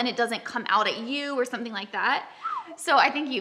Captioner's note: whistles